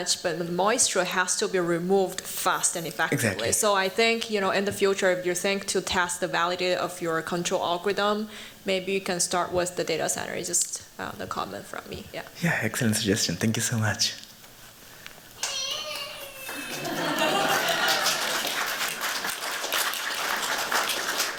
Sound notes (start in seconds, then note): 15.4 child crying; 16.3 laughter; 17.9 applause